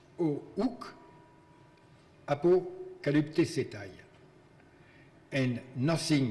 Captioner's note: speaking in foreign language